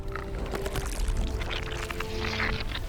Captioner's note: soft crackling